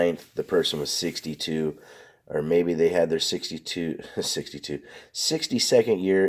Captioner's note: chuckles